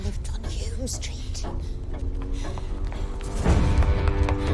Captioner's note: ticking continues